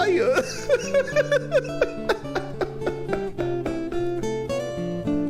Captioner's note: laughs